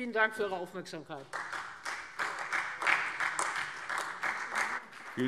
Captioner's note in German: Beifall Freie Demokraten und AfD